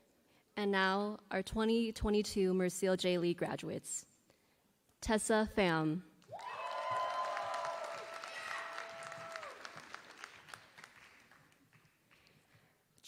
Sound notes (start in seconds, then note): 6.2 applause